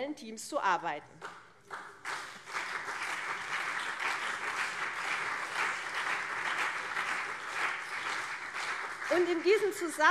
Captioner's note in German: Beifall CDU und SPD